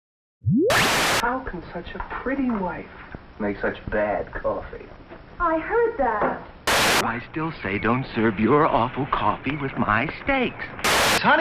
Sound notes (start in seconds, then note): 0.5 TV turns on, static; 6.6 TV static; 10.8 static